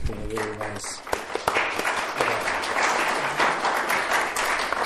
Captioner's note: applause